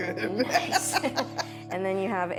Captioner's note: laughing